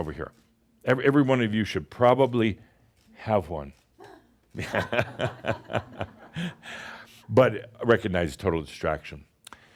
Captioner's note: chuckles